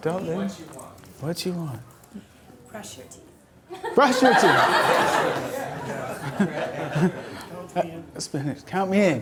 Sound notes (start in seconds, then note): 0.1 voiceover; 2.9 voiceover; 3.8 audience laughter; 8.4 voiceover